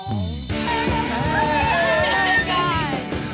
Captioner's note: upbeat music; all laughing